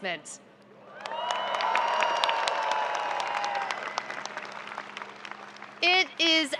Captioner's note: audience cheering and applauding